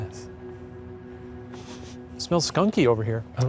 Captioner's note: Shane sniffing